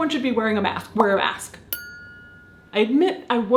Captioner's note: bell chimes